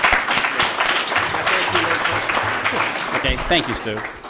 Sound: applause

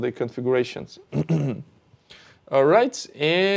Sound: clears throat

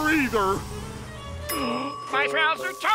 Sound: gasping

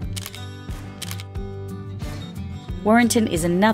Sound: camera shutter

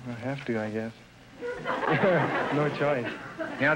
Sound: audience laughter

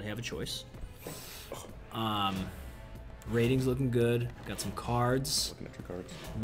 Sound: cough

